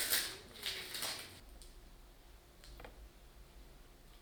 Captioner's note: tape whirring